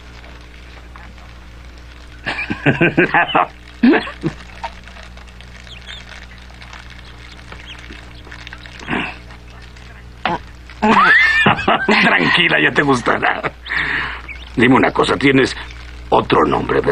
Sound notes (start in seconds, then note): 2.2 chuckles